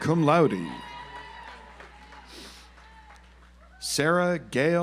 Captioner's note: audience applauds